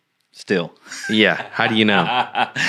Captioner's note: laughing